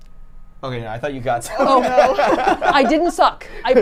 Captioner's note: laughing